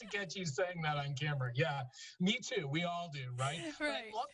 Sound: laughter

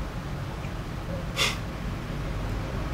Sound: snickers

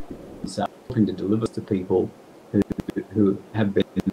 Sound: audio distorting

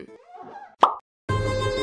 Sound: pop; snazzy christmas music

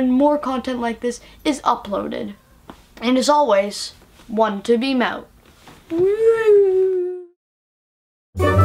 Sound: whooo

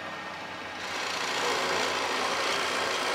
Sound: steady rattling

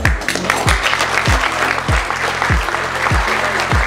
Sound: audience clapping

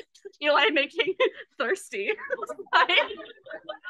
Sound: laughs

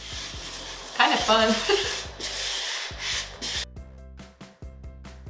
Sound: giggles

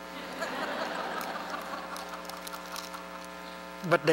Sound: laughter

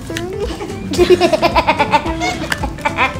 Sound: laughing

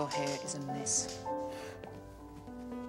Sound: blows breath

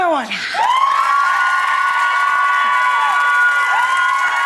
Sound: cheering

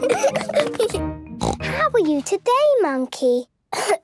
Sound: snort; she pretends to cough

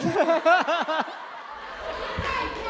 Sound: audience laughs

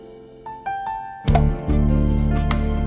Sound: pops

